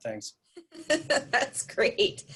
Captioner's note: laughing